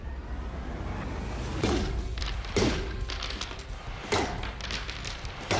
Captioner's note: banging